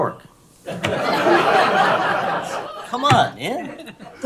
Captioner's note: laughter